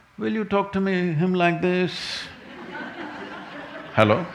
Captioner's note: laughter